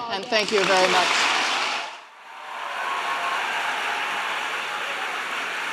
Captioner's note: applauding and cheering